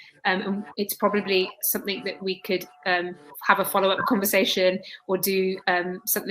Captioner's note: erm